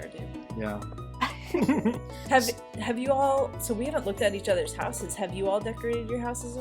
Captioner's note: all laugh